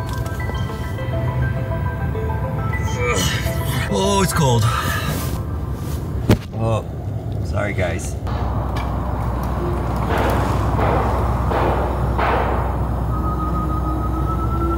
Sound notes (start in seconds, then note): 0.2 upbeat music; 8.2 car engine revving